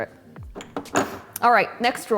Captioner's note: bottle thuds